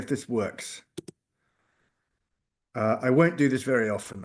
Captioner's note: keyboard clicking